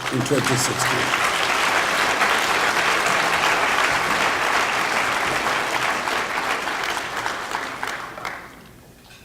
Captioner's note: applause